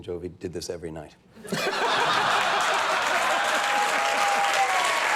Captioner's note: audience laughing